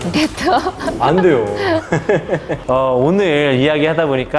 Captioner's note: laughing